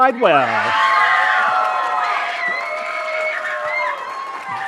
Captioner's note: cheering, applause